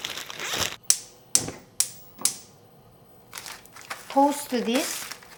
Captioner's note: stove crackles